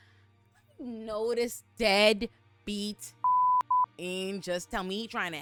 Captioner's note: beep